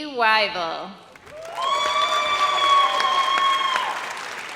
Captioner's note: audience cheers